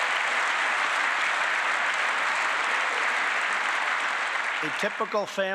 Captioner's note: applause